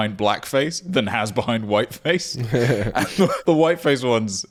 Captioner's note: laughing